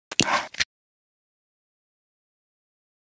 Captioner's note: the click of a computer mouse